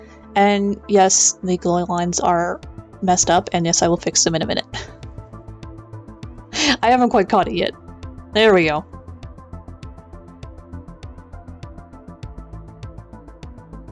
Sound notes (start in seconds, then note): 6.6 laughs